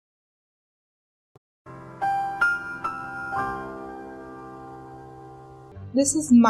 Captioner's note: the more you know sound